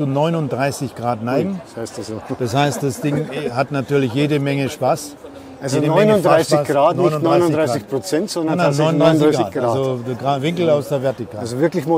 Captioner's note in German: lachen